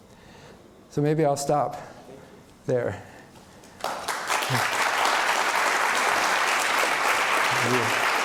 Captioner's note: applause